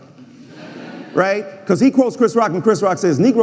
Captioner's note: audience laughing